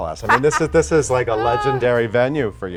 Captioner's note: Sandra laughs